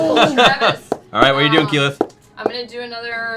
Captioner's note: laughs